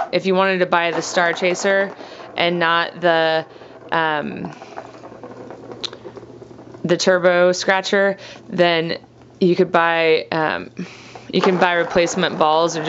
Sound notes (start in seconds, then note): none